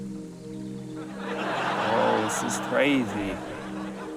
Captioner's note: laughter